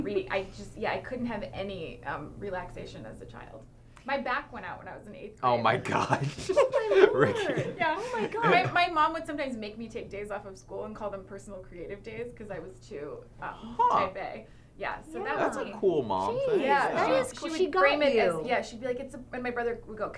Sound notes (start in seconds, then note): 5.9 laughter